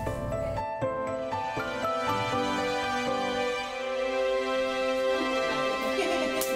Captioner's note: bright music; laughs